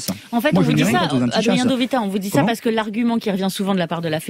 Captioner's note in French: Voix journaliste